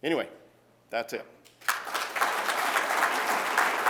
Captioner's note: applause